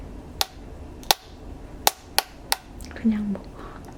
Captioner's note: tap tap tap